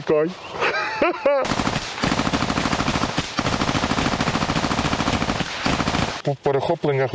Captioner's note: shooting sounds